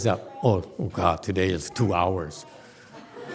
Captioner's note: audience laughs